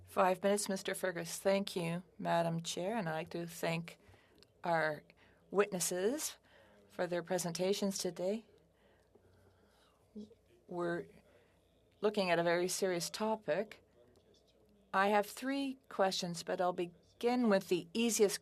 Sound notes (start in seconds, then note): 0.8 speaking French